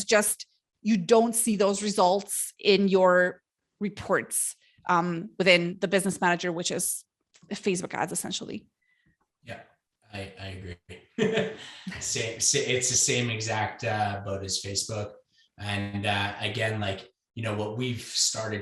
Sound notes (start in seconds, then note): 10.1 laughs